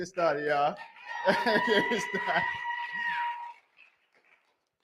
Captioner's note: cheering